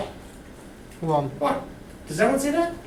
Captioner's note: voiceover